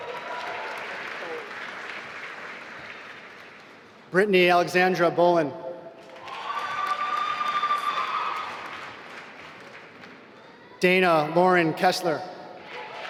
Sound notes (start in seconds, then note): 0.0 applause; 6.0 applause